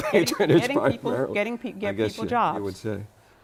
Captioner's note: laughter